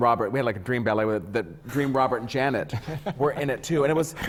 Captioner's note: laughs